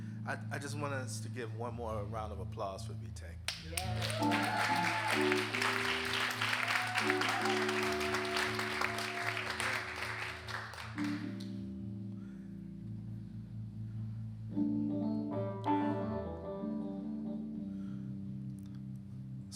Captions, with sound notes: - I just want us to give one more round of applause for BTEC. (audience cheering and applauding) (jazz music continues)